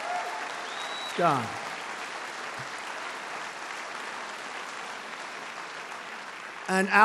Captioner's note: applause